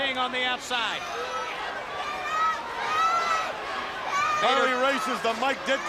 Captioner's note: crowd chatter